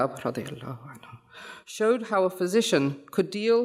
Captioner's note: speaks foreign language